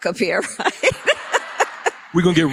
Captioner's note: laughter